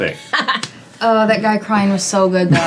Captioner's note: laughing